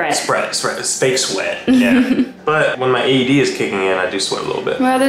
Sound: laughing

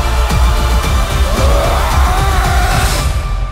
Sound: loud Screams

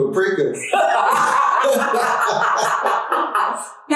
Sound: laughing

